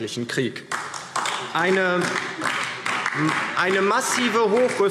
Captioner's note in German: Beifall DIE LINKE